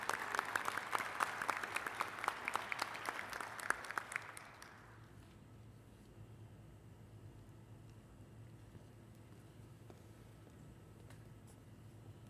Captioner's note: applause